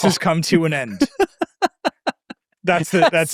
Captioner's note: laughing